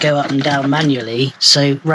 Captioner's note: sound of pushing the skylight